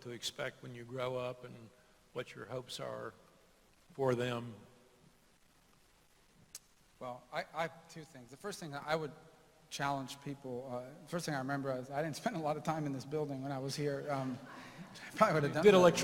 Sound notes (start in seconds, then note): 14.2 laughter